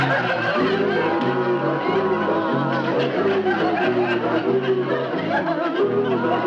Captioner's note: audience laughing